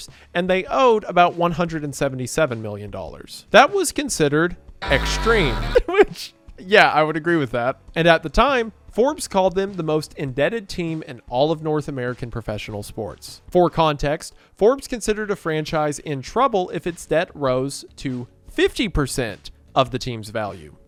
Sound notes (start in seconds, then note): 4.8 laughs